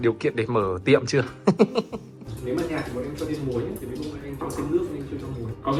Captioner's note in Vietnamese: tiếng cười